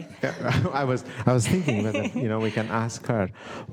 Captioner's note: laughter